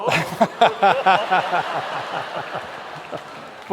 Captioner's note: laughter